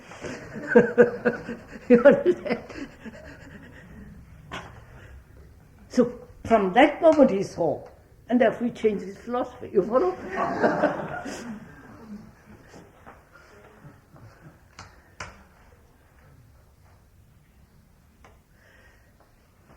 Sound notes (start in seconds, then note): 0.2 laughter; 4.8 laughs